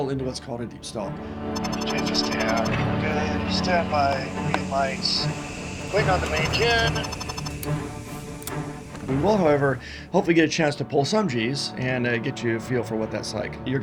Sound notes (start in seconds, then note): 7.8 dramatic music; 7.8 seatbelt clicks